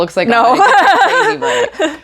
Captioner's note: dumb laugh